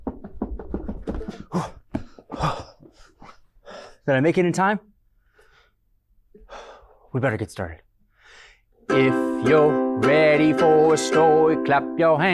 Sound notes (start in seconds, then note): 0.0 footsteps approaching; 2.7 panting noise